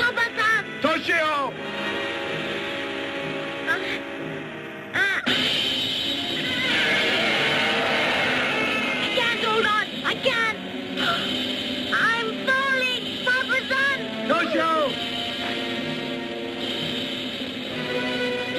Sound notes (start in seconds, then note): 4.1 Toshio grunts; 4.1 dramatic music; 6.4 Gammera screeching; 12.0 gasps; 15.7 dramatic music